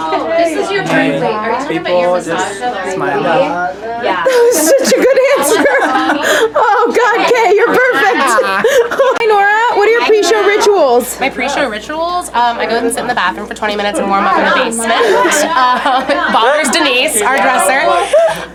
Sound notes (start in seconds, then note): 4.2 laughing; 14.5 laughs